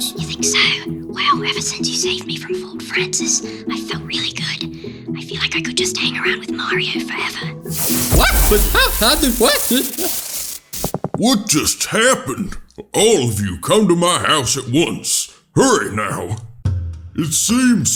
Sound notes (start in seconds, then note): 7.7 zap; 8.6 mario screams